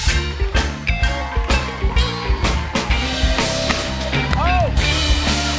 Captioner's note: cheers and applause